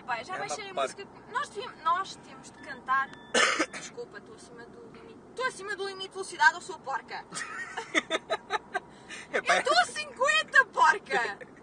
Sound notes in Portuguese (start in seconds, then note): 3.0 começa a apitar; 7.3 Risos